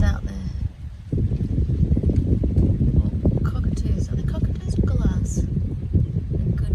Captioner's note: wind blows